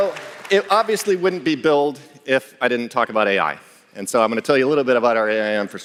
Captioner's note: applause